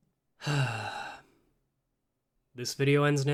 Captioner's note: sigh